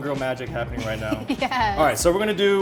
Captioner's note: laughs